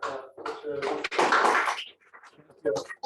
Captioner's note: applause